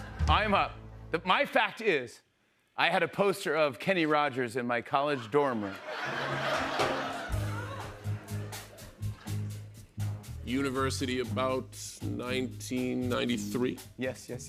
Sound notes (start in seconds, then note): 4.9 laughter